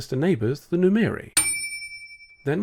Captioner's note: ding